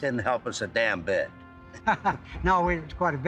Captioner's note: laughs